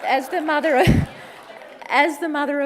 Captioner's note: laughs